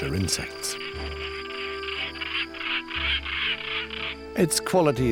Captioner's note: bird squawking